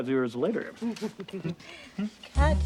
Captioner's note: giggles